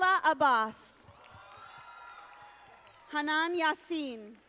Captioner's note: audience applauding